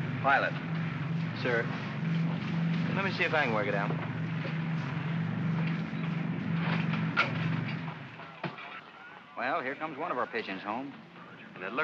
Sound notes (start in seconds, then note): 5.2 aircraft rumbles